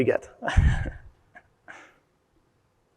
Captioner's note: chuckling